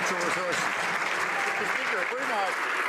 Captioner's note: some Applause